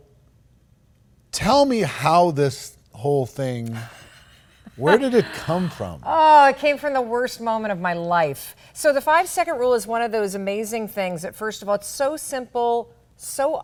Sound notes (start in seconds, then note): 6.2 laughs